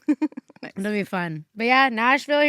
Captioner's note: chuckles